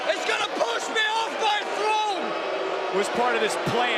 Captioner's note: yelling